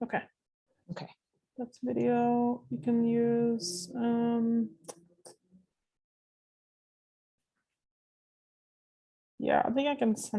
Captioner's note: pause